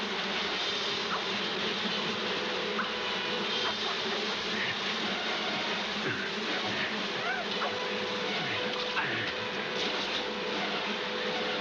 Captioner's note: water splashing